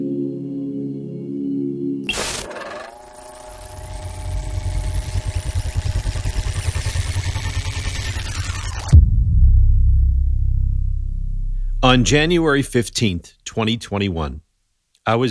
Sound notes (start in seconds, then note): 2.0 tape whirring